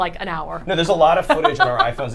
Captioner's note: laughs